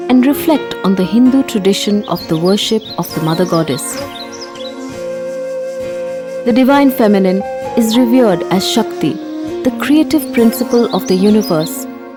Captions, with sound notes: and reflect on the Hindu tradition of the worship of the Mother Goddess. (birds chirping) (gentle music) The Divine Feminine is revered as Shakti, the creative principle of the universe